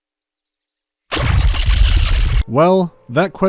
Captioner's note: bwwzt